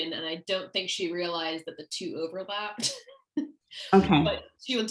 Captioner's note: laughter